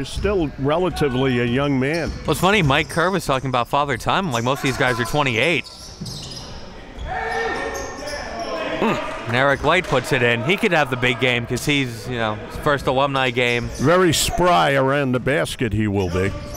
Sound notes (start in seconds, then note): 6.9 players and crowd yelling; 8.8 grunts